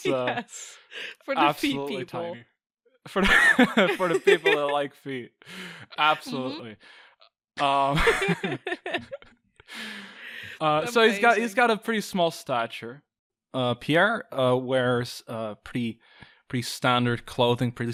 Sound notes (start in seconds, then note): 0.0 laughing; 3.6 laughing; 7.6 both laugh